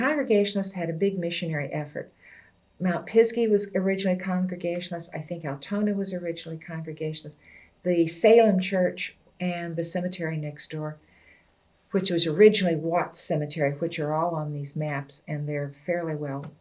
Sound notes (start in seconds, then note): none